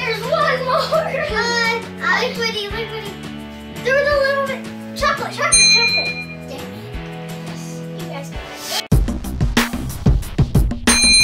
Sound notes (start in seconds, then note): 5.5 ding; 8.8 fun music; 10.9 several dings